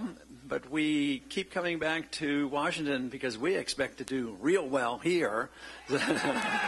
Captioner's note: laughter